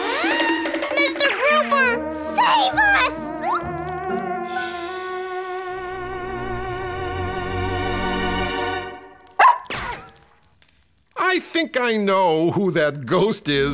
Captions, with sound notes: -Mr. Grouper! -Save us! [barking] I think I know who that ghost is.